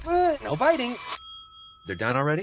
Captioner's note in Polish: dzyń